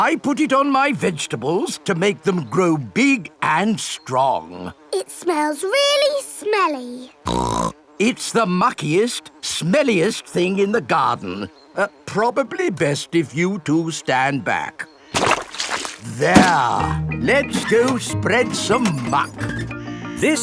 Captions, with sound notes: I put it on my vegetables to make them grow big and strong! It smells really smelly! (SNORTS) It's the muckiest, smelliest thing in the garden! Er, probably best if you two stand back. There! Let's go spread some muck!